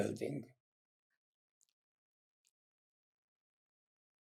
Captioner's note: pauses 6 seconds